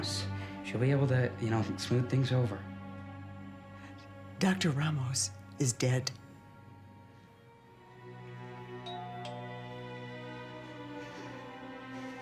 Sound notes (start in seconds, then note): 8.8 doorbell ringing